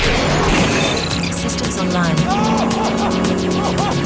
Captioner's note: beeping; yelping